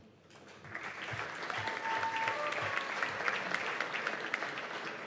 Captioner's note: cheers and applause